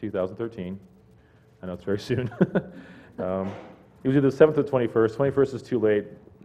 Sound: laugh

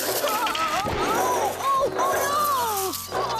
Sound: bang!

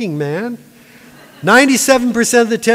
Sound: laughter

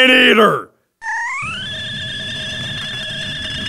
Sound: squeaks

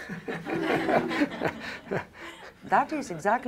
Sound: laughter

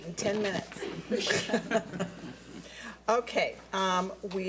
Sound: board laughs

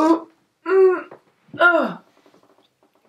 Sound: grunting

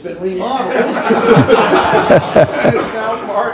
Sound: laughing

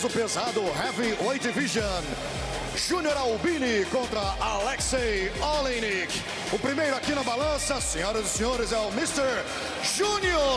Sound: speaking foreign language

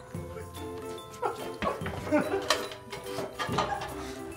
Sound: keg clanks; laughing

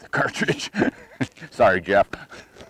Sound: laughs

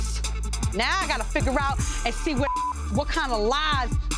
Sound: beep

